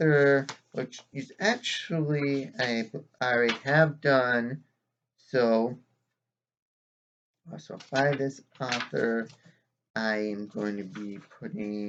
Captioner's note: whisk of pages